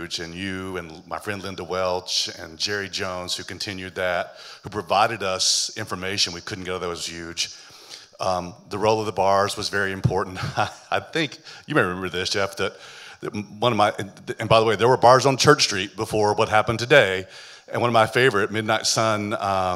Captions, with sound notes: And, you, and my friend, Linda Welch, and Jerry Jones, who continued that, who provided us information we couldn't get otherwise was huge. Um... the role of the bars was very important. (chuckling) I think-- you may remember this, Jeff, that one of my-- and by the way, there were bars on Church Street before what happened today. And, one of my favorite, Midnight Sun, um...